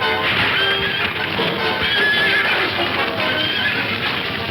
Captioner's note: dramatic music; fire crackling; horse whinnying